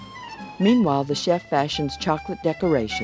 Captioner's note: voiceover